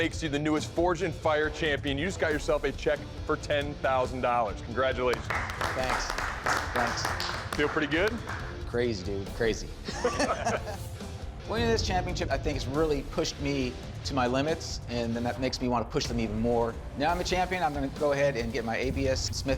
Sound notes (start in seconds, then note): 5.1 applause; 9.8 laughter